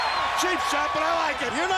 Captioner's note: crowd cheering